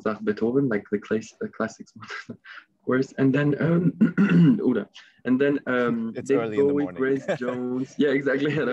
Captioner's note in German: räuspert sich